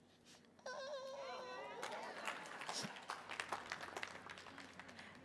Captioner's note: audience applauding